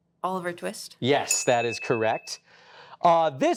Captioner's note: buzzer dings